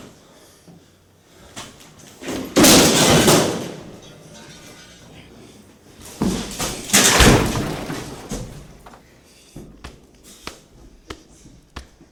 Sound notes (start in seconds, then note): 2.2 window breaking